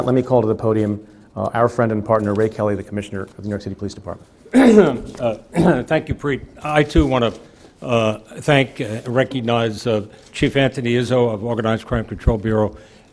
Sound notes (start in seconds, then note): 4.5 clears throat